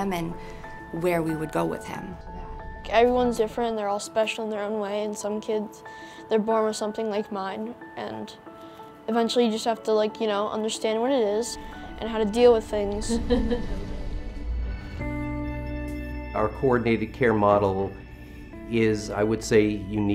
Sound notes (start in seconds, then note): 13.0 laughing; 15.0 steady music